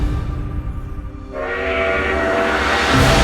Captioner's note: steam Locomotive